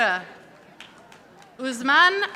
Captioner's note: audience applauding